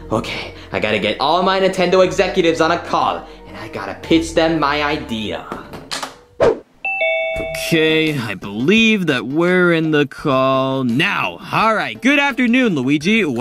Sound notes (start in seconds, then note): 6.8 Zoom meeting bell dings